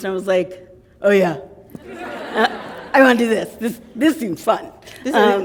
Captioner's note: laughter